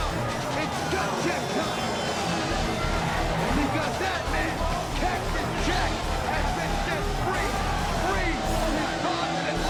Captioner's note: crowd chattering